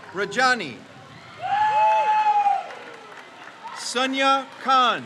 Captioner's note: crowd cheers